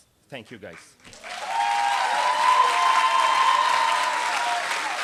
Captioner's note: applause